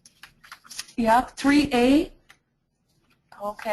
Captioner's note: voiceover